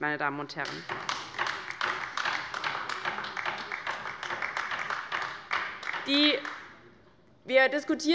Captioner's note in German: Beifall bei der LINKEN